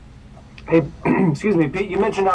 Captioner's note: throat clearing